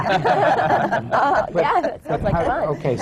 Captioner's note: laughter